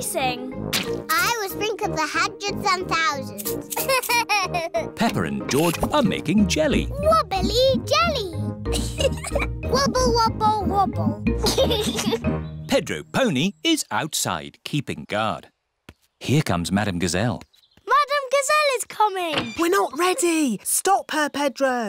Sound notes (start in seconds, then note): 3.6 laughs; 8.7 giggles; 11.3 giggles